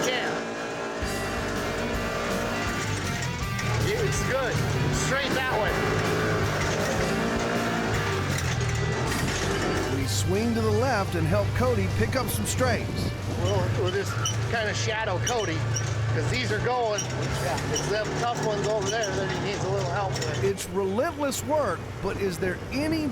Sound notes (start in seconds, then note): 0.1 motor revving; 5.7 motor revving